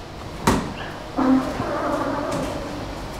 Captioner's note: creaking